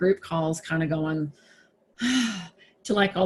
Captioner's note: sighs